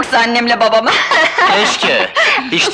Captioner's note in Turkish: Kahkahalar